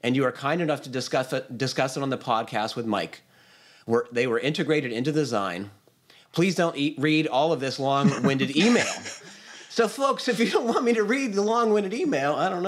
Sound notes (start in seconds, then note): 8.0 laughter